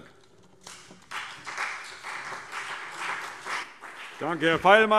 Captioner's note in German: Beifall CDU und BÜNDNIS 90/DIE GRÜNE